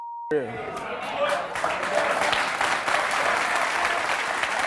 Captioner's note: audience clapping